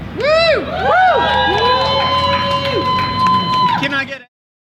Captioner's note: audience applauds and cheers